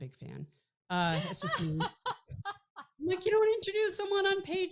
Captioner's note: laughing